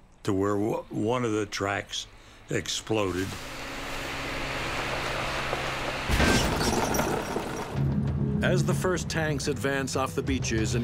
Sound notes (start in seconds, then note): 3.6 tank rumbling; 3.6 tank tracks exploding